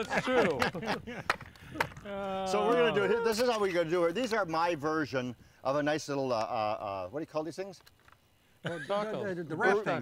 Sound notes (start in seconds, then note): 0.1 claps; 8.6 laughter